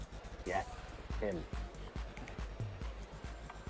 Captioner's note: people chattering